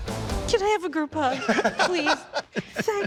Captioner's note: laughter